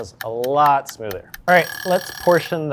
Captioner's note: timer rings; timer ticking